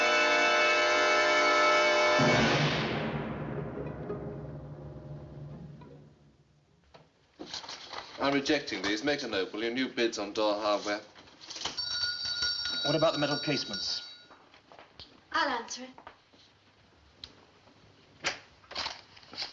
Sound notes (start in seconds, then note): 11.8 door Bell Jangles